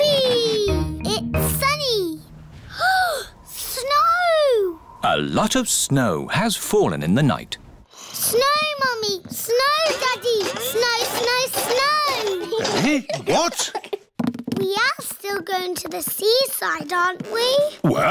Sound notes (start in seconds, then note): 2.7 gasps